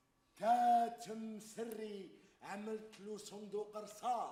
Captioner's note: man speaks Arabic